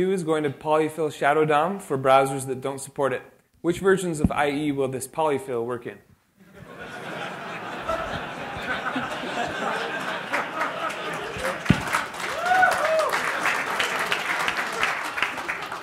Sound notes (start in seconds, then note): 6.4 laughter; 12.2 applause